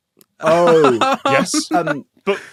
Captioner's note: laughs